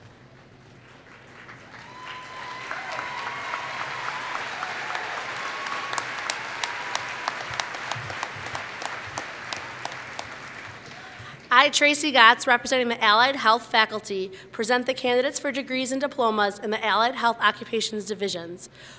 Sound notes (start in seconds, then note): 0.7 applause